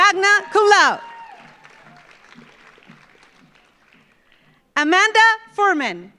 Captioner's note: audience cheers; audience applauds